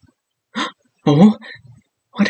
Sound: gasp

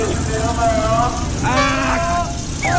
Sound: argh

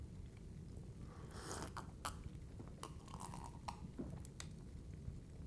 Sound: sips soup

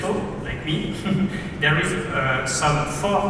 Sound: laughs

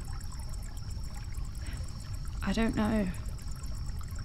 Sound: Ren sighs

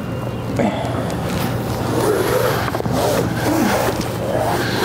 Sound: wire grinding

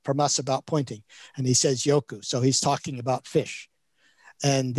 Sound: speaks in Chinese

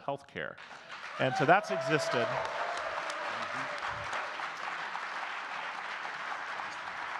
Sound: audience cheers and claps

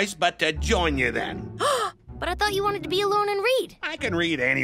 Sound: gasps

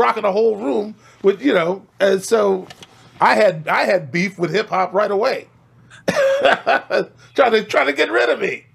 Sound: laughs

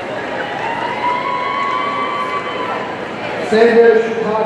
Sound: audience cheering

